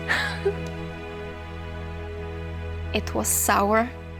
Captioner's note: laughs